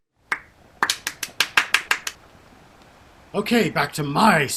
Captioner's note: clapping